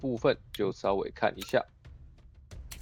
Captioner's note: Rune adjustment sounds